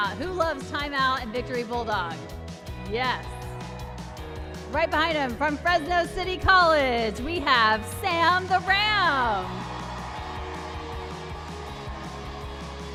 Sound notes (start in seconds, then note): 3.2 applause and cheering; 9.7 applause and cheering